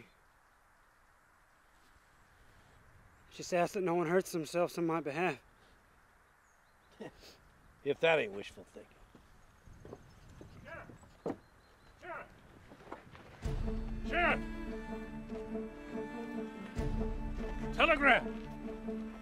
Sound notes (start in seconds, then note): 6.1 chuckling; 13.4 tense orchestral music